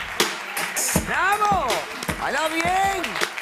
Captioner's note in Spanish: aplausos